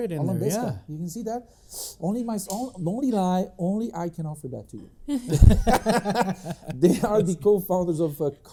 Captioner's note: laughing